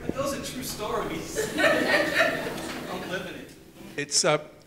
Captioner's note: laughs